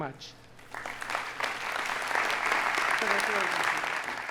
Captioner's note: audience applauding